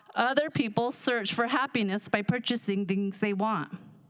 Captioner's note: none